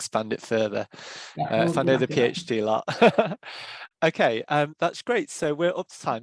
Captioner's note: laughs